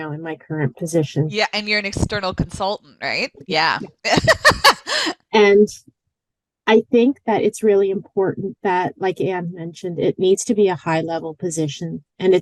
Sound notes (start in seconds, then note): 4.0 giggles